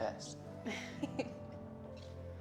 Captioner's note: laughing